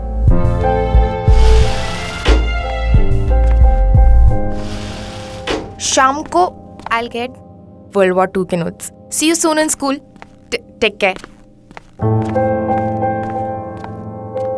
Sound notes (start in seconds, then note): 1.3 Door opening; 4.4 Door closing; 11.0 Footsteps